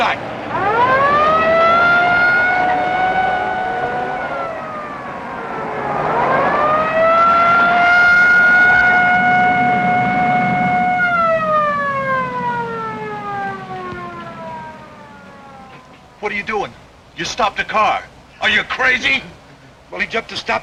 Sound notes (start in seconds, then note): 8.8 siren wailing